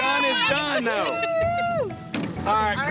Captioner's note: cheering